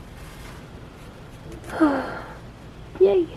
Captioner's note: happy sigh